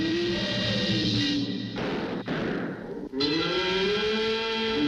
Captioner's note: gun shot firing; werewolf wailing